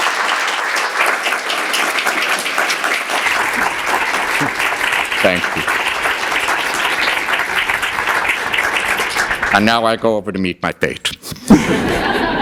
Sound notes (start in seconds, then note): 2.8 applause